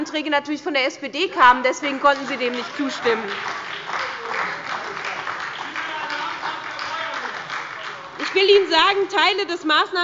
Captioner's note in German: Beifall bei der SPD – Zurufe von der CDU